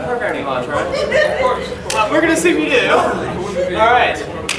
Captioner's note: audience laughing